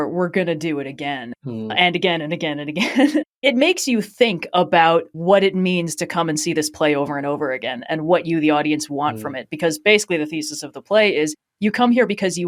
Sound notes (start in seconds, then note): 1.4 laughs